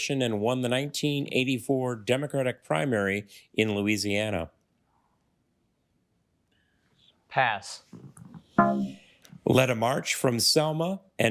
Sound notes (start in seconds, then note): 8.6 failure chime